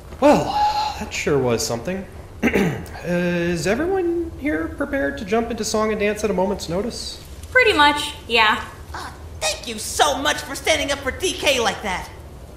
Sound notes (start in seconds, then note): 2.4 clearing throat